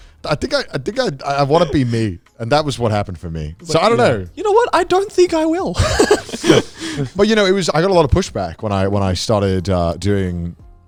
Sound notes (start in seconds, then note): 5.6 laughs